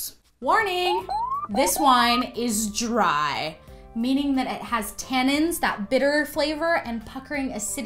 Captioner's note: alarm sounds